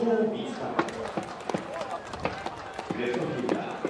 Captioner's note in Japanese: 拍手